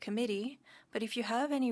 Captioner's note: speaking French